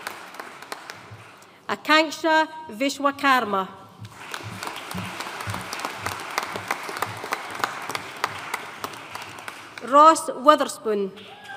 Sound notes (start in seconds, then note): 4.0 audience applauding